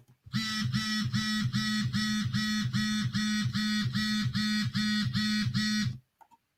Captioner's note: phone vibrating